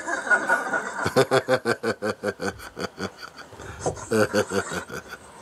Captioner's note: laughter